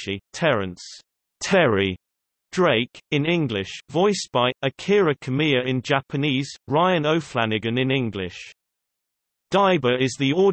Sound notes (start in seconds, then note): 1.0 Terrence "Terry" Drake, in English